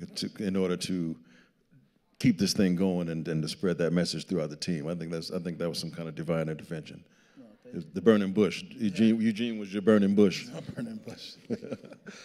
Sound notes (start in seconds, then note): 7.9 speaking quietly; 10.4 laughing